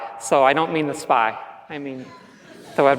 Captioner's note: laughs